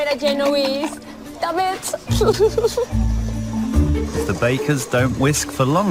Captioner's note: laughs